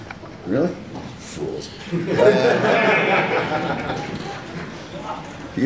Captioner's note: laughter